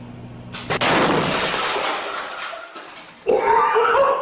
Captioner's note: microwave explodes